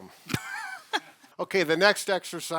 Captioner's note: laughs